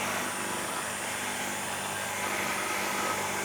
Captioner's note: saw humming